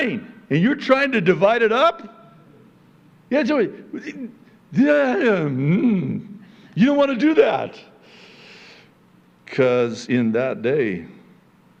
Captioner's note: frustrated sounds